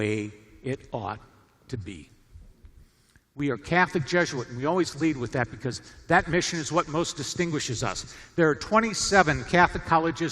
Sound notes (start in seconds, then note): none